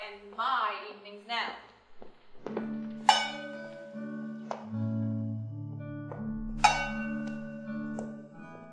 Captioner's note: bell ringing